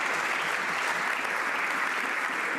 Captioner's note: some Applause